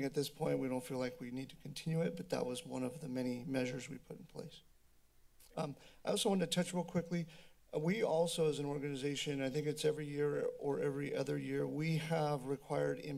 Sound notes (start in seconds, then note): 4.6 silence